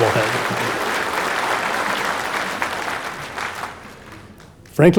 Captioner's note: audience applauding